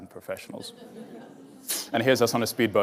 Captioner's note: audience laughs